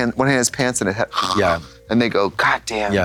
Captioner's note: snores